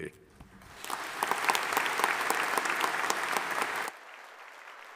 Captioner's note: audience applauding